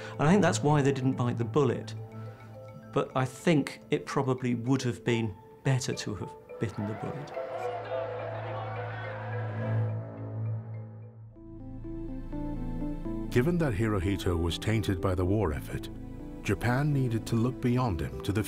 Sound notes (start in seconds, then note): 7.8 people shouting in foreign language; 11.4 contemplative synth music